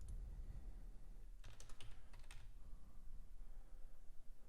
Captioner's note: typing